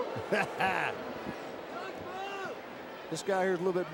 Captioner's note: Jim cackles